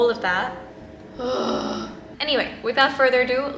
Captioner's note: groans